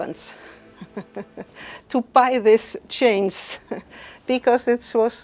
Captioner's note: chuckles